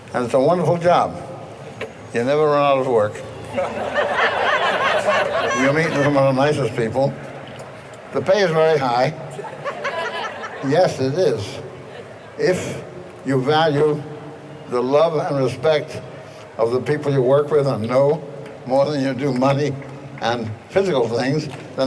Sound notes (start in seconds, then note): 3.2 all laughing